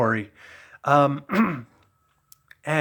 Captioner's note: clears throat